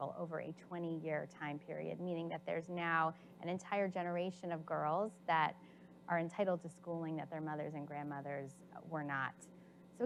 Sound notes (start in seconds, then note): none